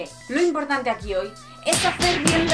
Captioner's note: punch noises